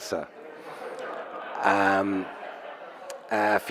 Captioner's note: audience laughs